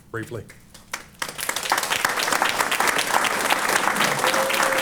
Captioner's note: applause